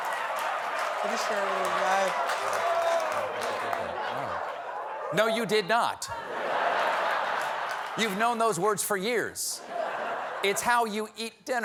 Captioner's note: laughter